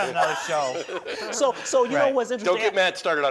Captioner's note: laughing